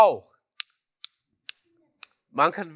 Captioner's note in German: Klicken